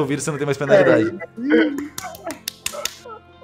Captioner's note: laughing and clapping